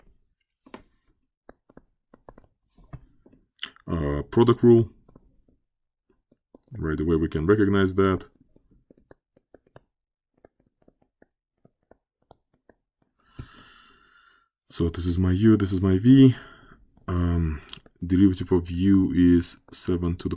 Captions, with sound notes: Let's try this one. Protocol, right away we can recognize that. [ Writing ] So, this is my u, this is my v. Derivative of u is 7